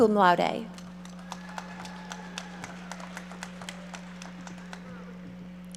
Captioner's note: audience applauding